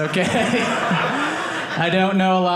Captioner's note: audience laughing